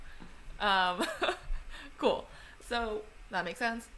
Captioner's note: laughs